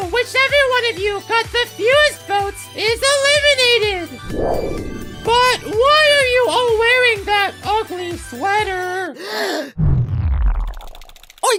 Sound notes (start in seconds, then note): 4.2 whoosh sound; 10.2 dramatic boom